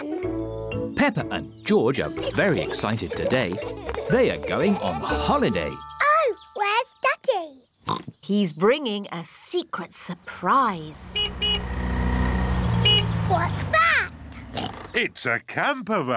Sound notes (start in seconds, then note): 7.8 oinks; 10.8 horn honks; 14.4 oinks